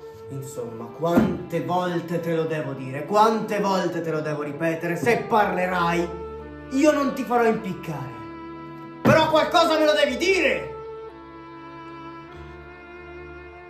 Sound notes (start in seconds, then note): 8.7 yelled